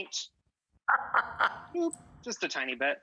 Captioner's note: laughing